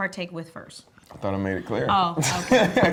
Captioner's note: laughter